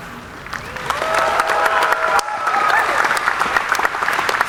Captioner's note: audience applauding